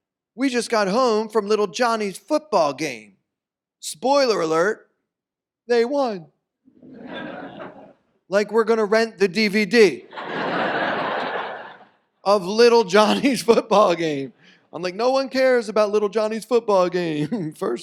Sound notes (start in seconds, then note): 10.0 audience laughs